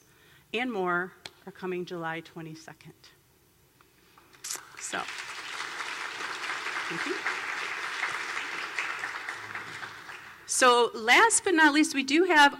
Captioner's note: applause